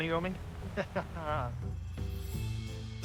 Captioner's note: chuckles